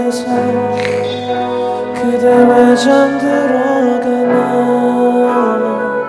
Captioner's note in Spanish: Suena nervioso frente a ella